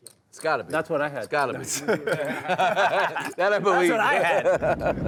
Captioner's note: players laughing